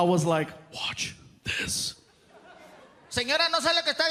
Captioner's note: whispering